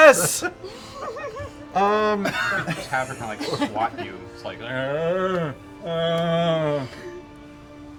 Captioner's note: zombie grunting noises